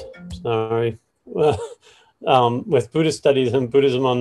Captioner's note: chuckles